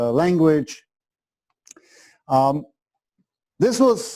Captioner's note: pause